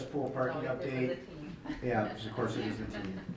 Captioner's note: laughs